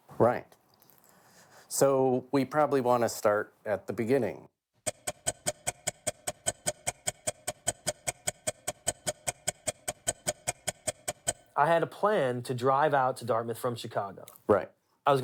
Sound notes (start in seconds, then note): 4.8 timer ticking